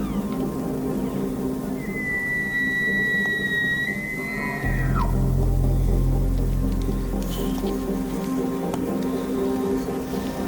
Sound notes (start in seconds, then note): 1.5 elk bugle